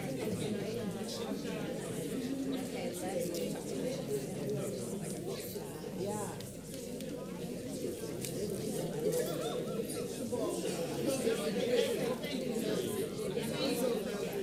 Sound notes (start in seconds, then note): 7.2 audience chattering